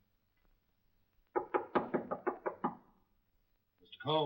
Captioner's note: knocking on door